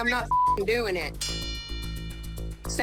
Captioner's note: bell dings